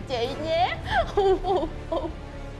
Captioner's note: making the crying sound